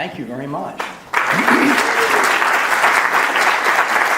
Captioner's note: applauding